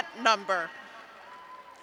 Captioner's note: cheers